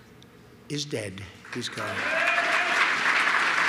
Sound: applause

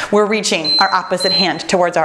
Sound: timer beeps

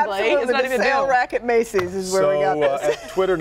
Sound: laughter

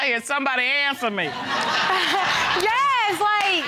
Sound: audience laughing

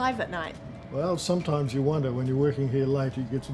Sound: male Speaking

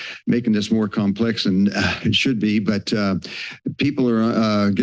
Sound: sighs

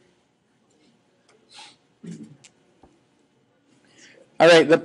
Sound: scattered chuckling

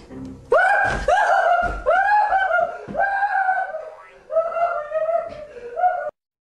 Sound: screaming

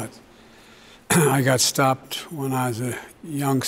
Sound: clears throat

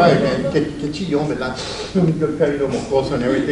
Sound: speaks Spanish

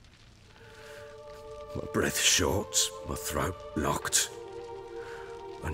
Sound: inhale

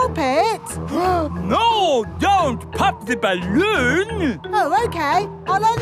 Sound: gasps

